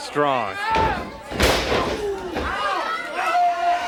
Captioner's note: body thuds